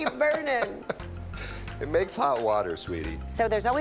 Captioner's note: laughs